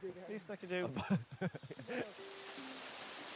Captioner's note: laughs